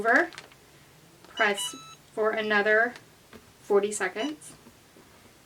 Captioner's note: chimes; beeps